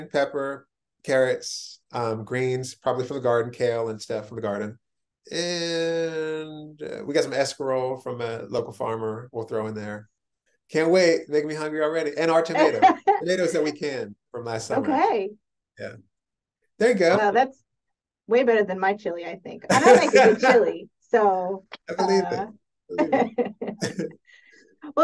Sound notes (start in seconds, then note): 19.7 laughs